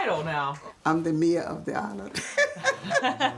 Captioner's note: laughs